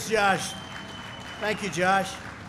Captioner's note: applause